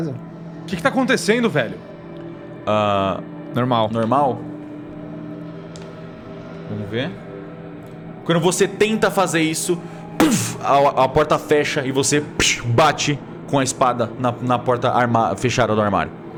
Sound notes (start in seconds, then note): 9.8 slam; 12.1 sling